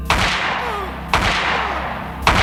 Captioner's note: gunshots